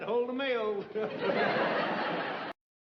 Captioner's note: chuckles